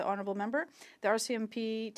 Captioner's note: speaking French